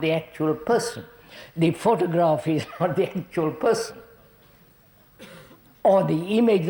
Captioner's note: laughs